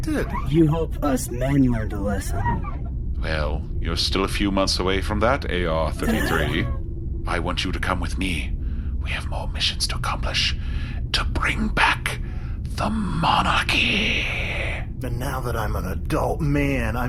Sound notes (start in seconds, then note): 6.0 AR-33 sighs; 8.1 whispering